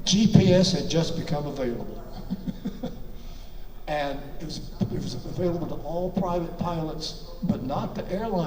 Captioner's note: laughs